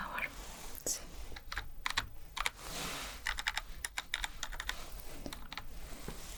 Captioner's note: typing sounds